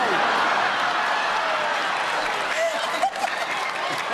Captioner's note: laughter